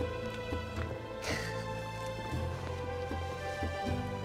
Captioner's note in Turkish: Dündar gülme sesi